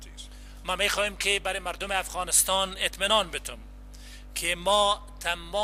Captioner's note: translator speaking in foreign language